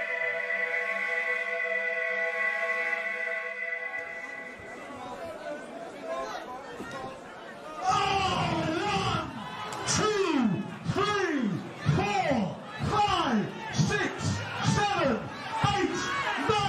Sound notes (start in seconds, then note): 4.2 crowd talking